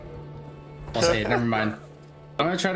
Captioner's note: laughing cus his brain is gone